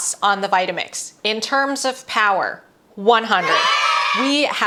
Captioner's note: children cheering sound